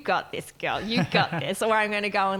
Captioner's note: laughing